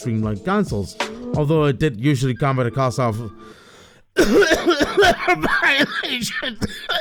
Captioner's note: cough